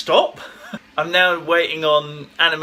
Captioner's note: laughs